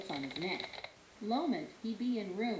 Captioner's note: types on keyboard